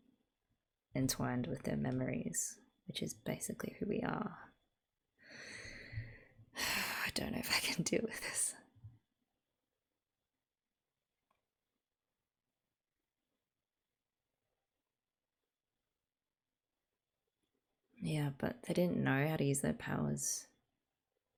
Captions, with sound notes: entwined with their memories. Which is basically who we are. [sigh] I don't know if I can deal with this. Yeah, but they didn't know how to use their powers.